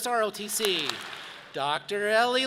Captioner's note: audience claps